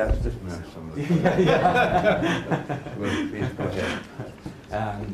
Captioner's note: congregation laughs